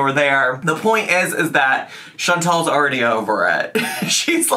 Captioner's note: laughs